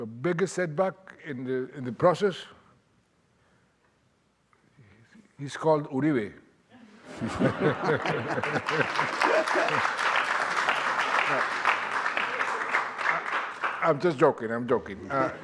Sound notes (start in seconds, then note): 7.1 audience laughing and clapping